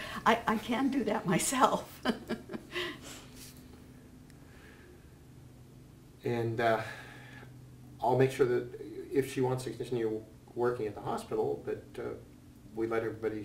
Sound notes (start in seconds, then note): 2.0 laugh